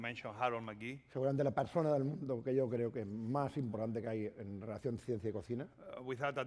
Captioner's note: speaking spanish